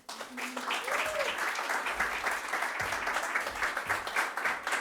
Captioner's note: applause